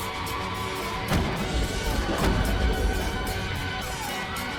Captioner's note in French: tirs d'armes à feu